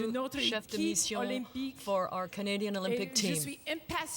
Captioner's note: speaking French